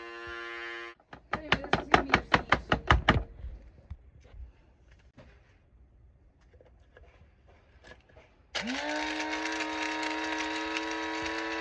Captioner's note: tap Tap Tap